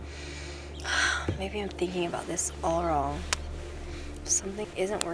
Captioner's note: sighs